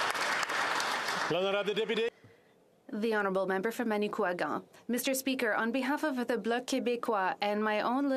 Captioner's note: applause